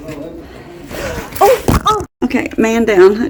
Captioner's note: thud